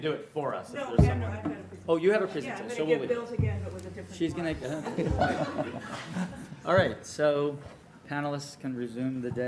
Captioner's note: laughter